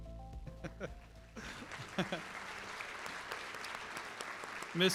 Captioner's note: applause